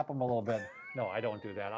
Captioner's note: laughs